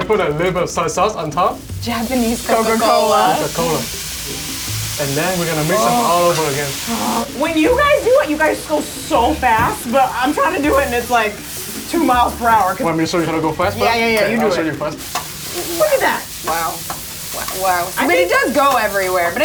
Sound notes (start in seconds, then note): 6.9 grunting